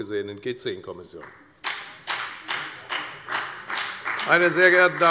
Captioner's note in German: Beifall bei der FDP und der LINKEN